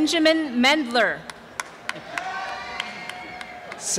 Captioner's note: applause and cheering